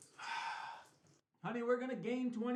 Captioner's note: sighs